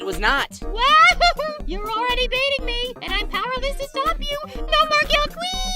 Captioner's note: laughs